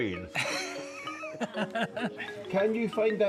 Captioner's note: laughs